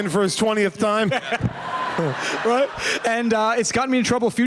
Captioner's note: laughter